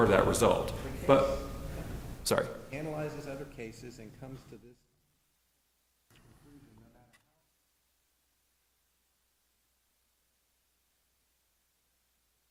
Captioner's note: silence